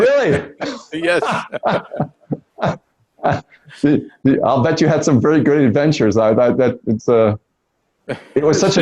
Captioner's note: laughs